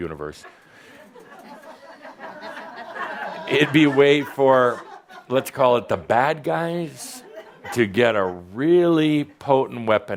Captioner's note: a few chuckles